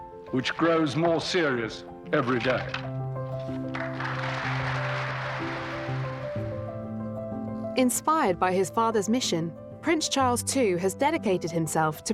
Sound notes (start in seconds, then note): 3.3 audience applauding